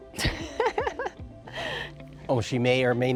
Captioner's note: laughs